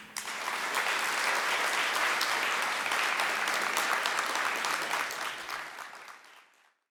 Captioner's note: applause